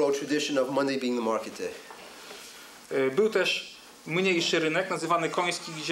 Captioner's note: speaking Polish